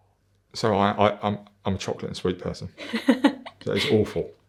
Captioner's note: laughing